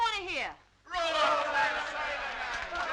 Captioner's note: crowd; crowd clapping